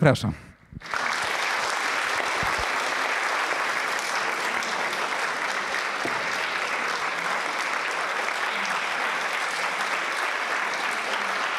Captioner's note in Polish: oklaski